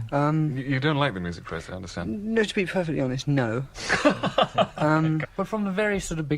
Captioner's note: laughter